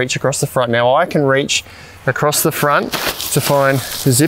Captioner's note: tent crumpling